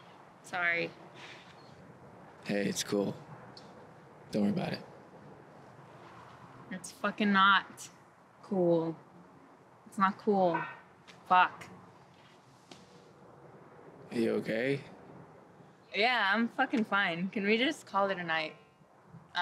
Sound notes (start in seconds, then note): 10.3 clang in the distance; 12.6 smacks her lap